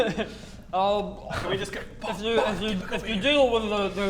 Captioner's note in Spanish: susurro